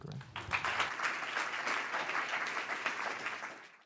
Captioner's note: audience applauding